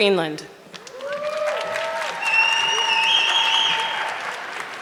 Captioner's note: audience clapping